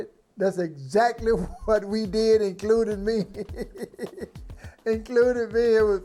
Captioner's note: laughing